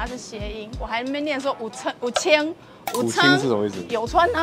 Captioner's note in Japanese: 台湾語